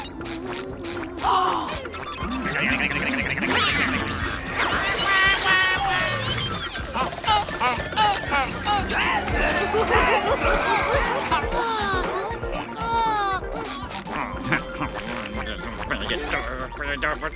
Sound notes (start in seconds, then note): 0.9 gasping; 11.6 moaning; 14.0 grumbling